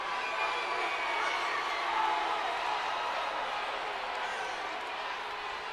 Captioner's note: crowd chattering continues